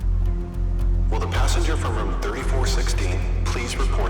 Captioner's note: man On Loudspeaker